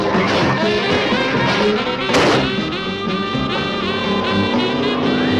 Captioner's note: suspenseful music; ground rumbling